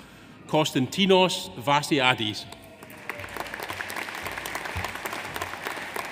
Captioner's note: audience applauds